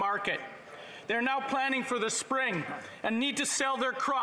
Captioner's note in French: voix de l'interprète